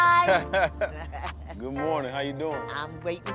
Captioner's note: chuckles